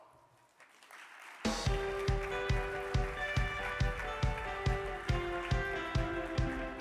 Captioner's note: audience applauding; upbeat music